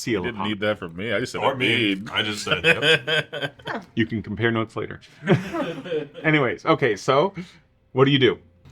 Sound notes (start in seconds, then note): 5.3 chuckles